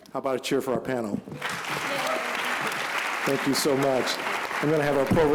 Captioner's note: applause